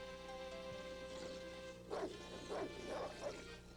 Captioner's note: grrr!